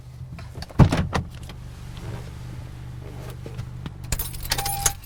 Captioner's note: car door clicks; car beeps